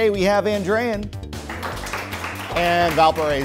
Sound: applause

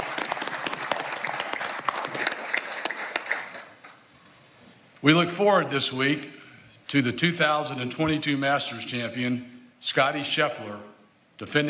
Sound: applause

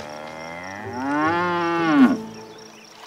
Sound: mooing

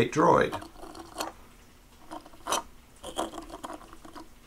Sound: plastic shifting

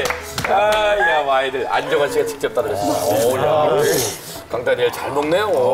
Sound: slurp Slurp

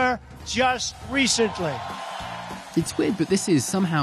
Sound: cheering

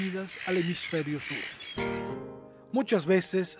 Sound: gulls calls; rhythmic music

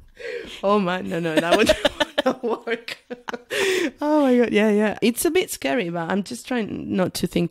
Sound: laughs

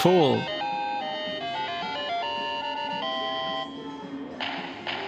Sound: Mario Sound Effect

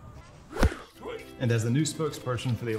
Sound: bat whiffs

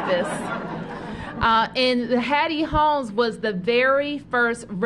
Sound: laughter

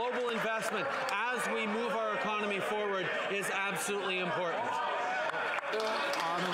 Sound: some Applause

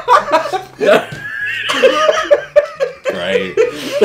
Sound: laughing

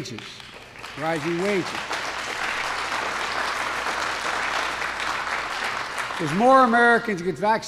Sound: applause

